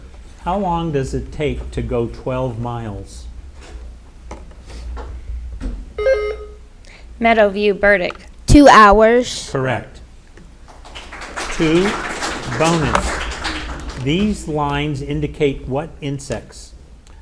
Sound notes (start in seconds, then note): 3.3 light clattering; 6.0 buzzer ringing; 10.6 audience applauding